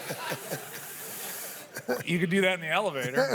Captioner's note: laughter